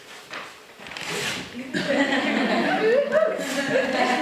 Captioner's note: laughter